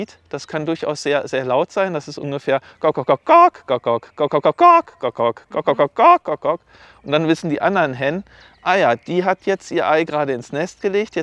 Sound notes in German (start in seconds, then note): 3.2 imitiert Gegacker in verschiedenen Tonhöhen